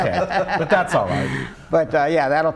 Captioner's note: laughter